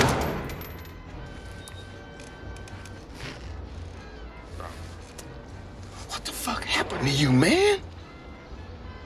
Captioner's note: gunshot